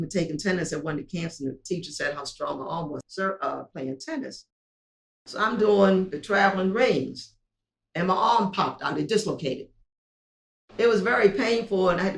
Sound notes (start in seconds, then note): none